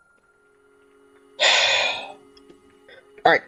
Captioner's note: sigh